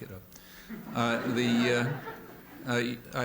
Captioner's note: laughter